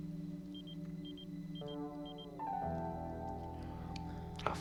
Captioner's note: beeping